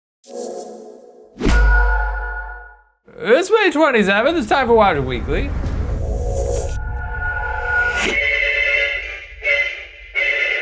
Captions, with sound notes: (ethereal sounds) - It's May 27th, it's time for Watcher Weekly. (discordant music)